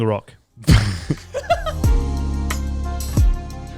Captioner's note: laughing loudly; chilled music